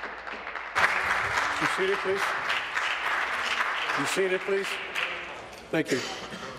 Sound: applause

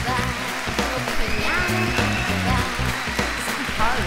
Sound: applause

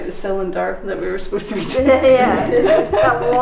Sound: laughing; laughs

